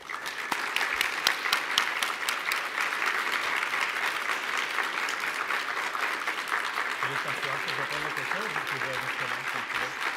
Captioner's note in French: applaudissements